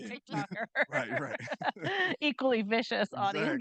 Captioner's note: chuckles